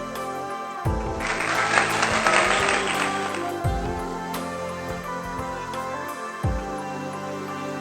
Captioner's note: applause for myself